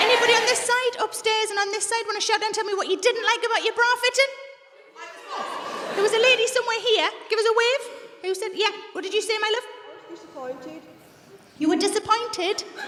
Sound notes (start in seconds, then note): 4.4 women shout out